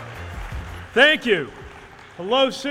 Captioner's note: cheers/applause